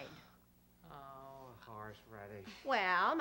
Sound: father, muttering

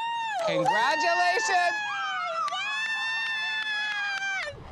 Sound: cheering

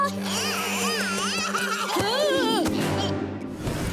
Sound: laughing

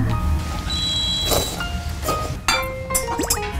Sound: slurping

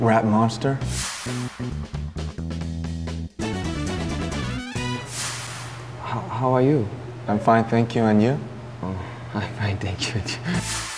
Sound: name: Speaking in fluent English

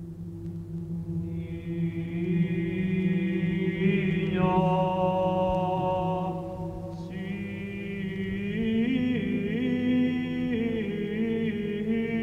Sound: chanting

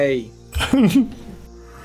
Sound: laughs

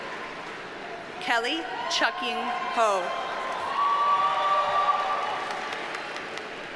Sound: audience cheers and applauds

